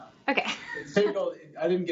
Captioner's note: laughs